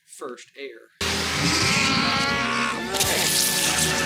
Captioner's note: Voldescreams